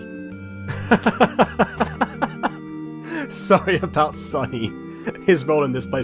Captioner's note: laugh